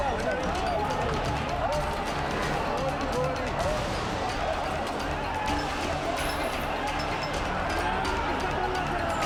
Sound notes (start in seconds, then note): 0.0 group chattering angrily; 1.3 intense music continues